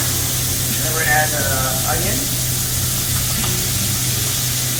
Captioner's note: ingredients sizzling